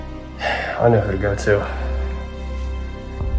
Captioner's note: sighs